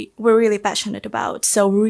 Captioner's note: none